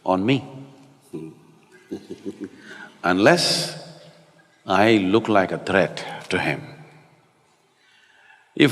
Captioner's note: Matthew laughs